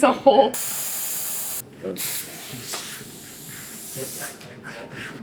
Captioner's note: air whooshing